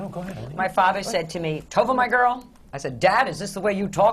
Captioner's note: deep voice